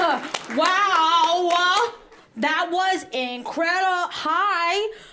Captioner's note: claps